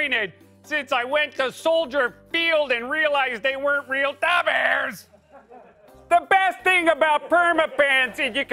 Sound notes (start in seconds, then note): 5.0 laughter; 7.8 laughter